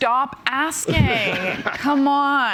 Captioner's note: laughs